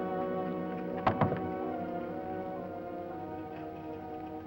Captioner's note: knocking